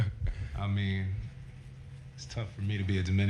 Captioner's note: laugh